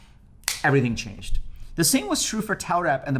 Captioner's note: snaps fingers